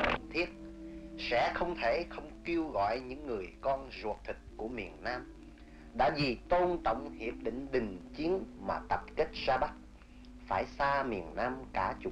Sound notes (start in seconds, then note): 0.8 speaking foreign language